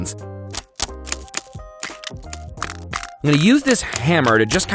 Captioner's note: egg crackling